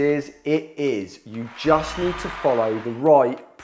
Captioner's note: audience applauding